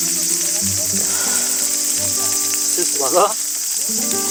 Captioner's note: sigh